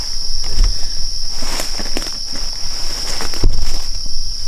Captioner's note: leaves rustling